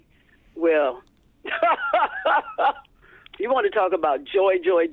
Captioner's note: laughter